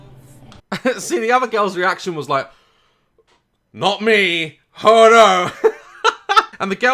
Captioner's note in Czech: smích